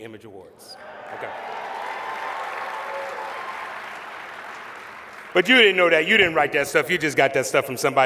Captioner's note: applause